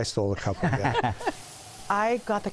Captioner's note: laughter